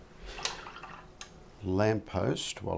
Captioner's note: silence